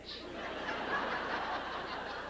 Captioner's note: laughter